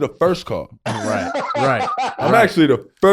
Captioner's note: Rel laughing